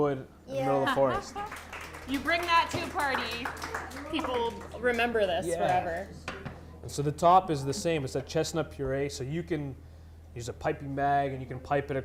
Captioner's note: clapping